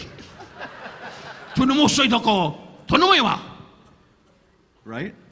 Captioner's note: Don laughing; laughing; Don speaking in Japanese